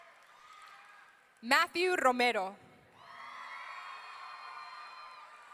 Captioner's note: audience cheering